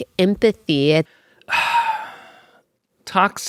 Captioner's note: deep breath